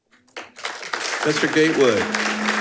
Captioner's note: attendees applauding